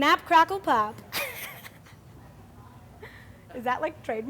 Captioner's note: laughing